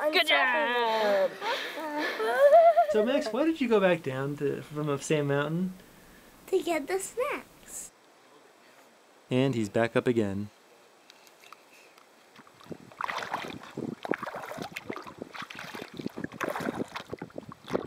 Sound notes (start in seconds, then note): 11.9 paddling sounds